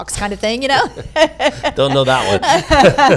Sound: laughing

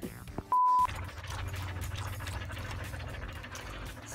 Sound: dogs panting

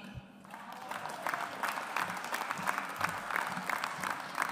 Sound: audience applauds

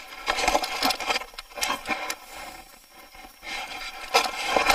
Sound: rustling sound

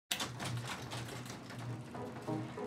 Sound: garage door opening; curious music

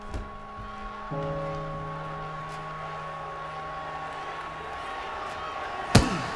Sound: crowd cheering

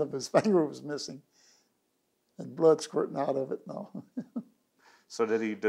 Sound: laughs

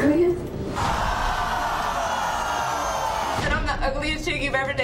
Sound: audience yells

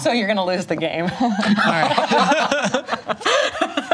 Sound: laughter

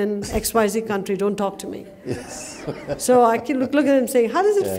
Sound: laughter

